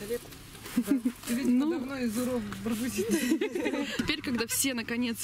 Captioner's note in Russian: смеются